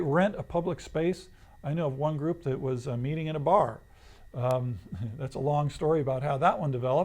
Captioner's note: laughs